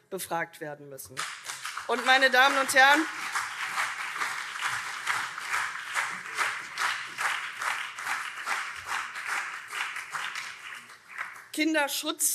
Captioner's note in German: Lebhafter Beifall CDU, SPD, BÜNDNIS 90/DIE GRÜNEN und Freie Demokraten